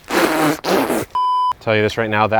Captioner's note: spitting